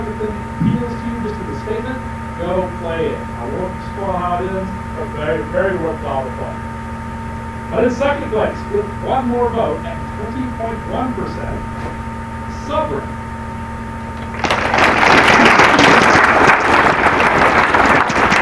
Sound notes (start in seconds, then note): 14.2 applause